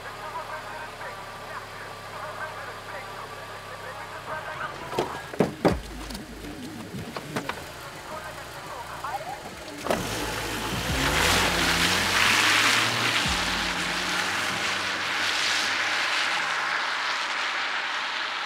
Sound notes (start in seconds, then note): 0.3 muffled rap music; 5.0 tapping